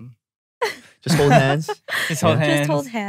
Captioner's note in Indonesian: tertawa